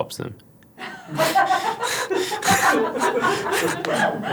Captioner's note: laugh